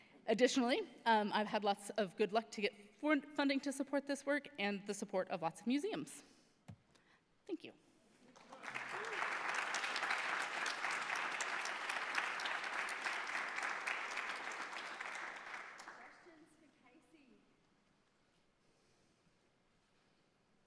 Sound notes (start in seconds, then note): 8.3 audience applauds